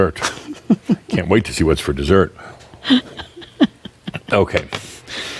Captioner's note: chuckles; continues chuckling